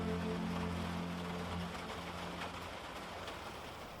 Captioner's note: rain pattering